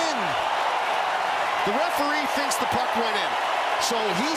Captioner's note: cheering